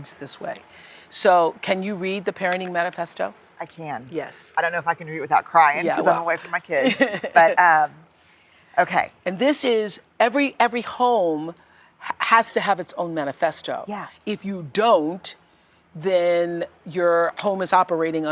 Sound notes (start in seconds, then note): 6.8 laughs